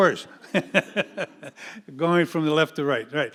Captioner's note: audience laughing